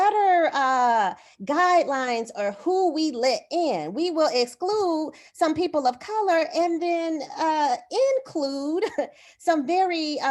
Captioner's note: laughter